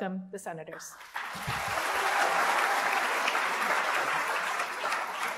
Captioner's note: applause